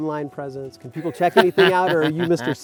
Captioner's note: laughing